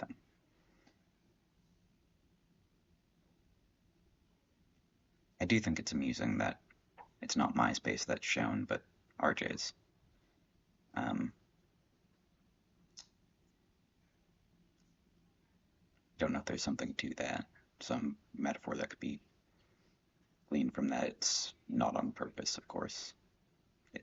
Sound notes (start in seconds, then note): 0.0 silence; 9.9 silence